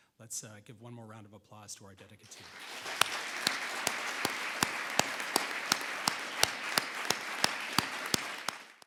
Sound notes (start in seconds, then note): 2.2 audience applauding